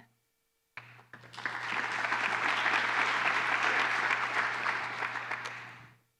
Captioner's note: applause